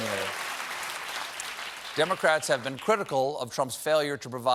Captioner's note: applause